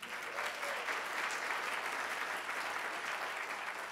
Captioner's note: applause